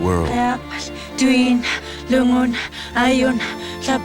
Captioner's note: chanting